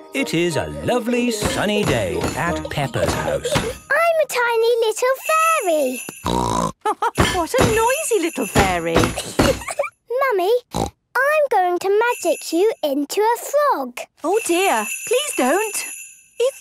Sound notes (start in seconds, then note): 6.2 snort; 6.8 laugh